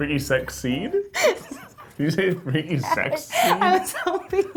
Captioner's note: laughs